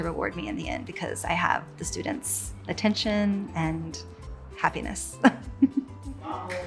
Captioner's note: laughs